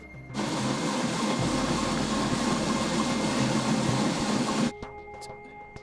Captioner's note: treadmill whirring loudly over dramatic electronic music